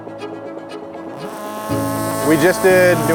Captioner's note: upbeat music; engine noise